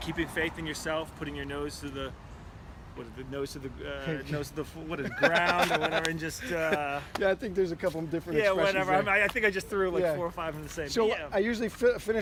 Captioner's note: laughing